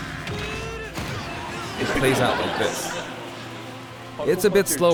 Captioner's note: laughter